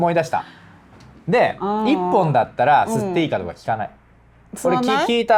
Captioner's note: laughs